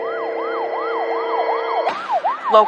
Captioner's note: sirirenens wawaililing